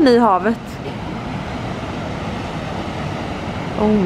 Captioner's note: noise from the sea